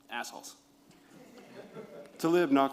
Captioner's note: laughter